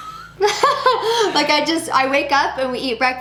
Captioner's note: laughs